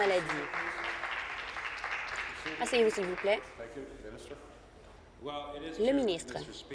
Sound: applause

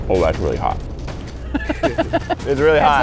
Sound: laughing

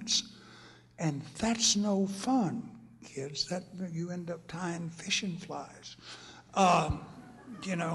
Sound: laughter

